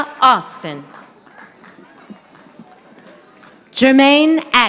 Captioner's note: audience applauding